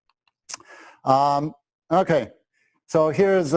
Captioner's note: pause